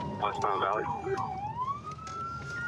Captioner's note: sirens